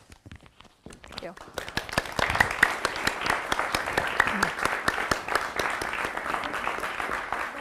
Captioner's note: audience applause